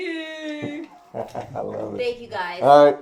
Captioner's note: laughter